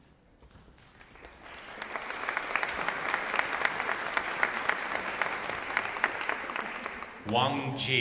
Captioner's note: applause